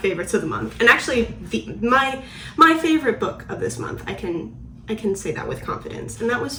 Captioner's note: stutters